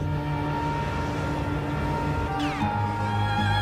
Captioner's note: calm dramatic music; plane roaring; riveting instrumental music